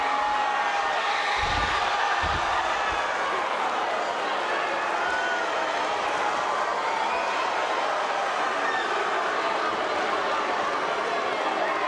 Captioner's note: crowd boos